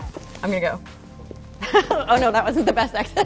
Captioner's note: laughter